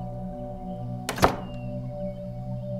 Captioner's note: Door closes